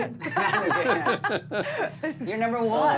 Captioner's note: laughter